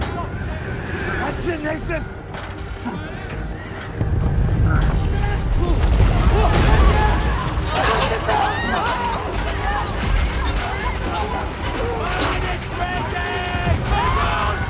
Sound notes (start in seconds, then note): 5.4 people screaming; 5.4 rumbling; 8.0 ladders clanking; 8.0 panicked shouting